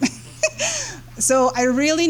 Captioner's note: laughs